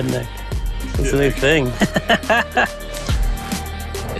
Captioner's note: laughter